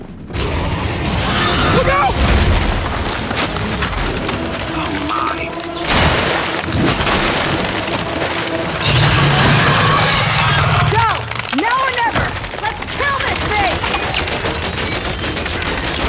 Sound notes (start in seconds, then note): 0.3 gunshots; 7.7 gunshots; 8.9 screaming